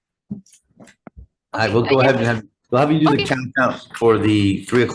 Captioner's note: faintly speaking